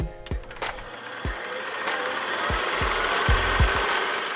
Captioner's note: old film projector